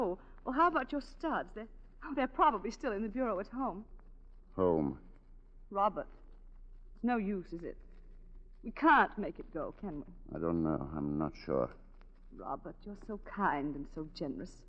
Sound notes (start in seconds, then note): none